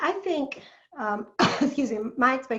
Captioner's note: cough